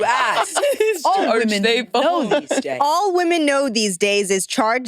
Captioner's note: participants laughing